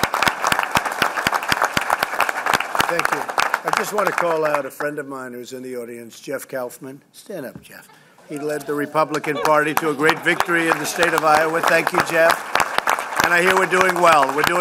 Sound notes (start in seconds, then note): 0.0 applause; 11.9 applause